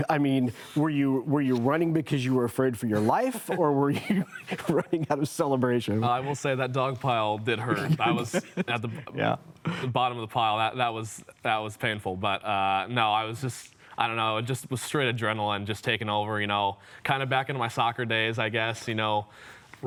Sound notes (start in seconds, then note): 3.9 chuckles